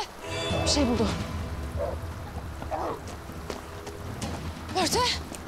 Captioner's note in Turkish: Havlama sesleri